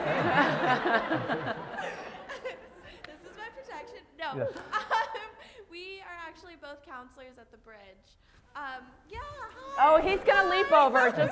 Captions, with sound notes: Is he- >> [LAUGH] >> He's like, I'm watching you Booker. >> No [LAUGH]. [LAUGH] >> This is my protection. No. >> Yeah. >> We are actually both counselors at The Bridge. Yeah, hi, bye.